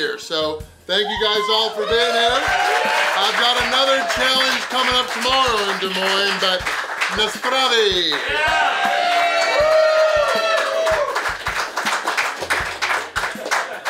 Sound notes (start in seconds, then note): 2.6 crowd applauds; 2.6 crowd cheers; 6.7 speaks foreign language; 8.6 crowd applauds; 8.6 crowd cheers